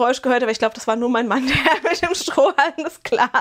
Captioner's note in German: Gelächter